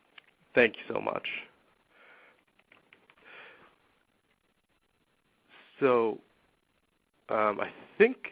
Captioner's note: silence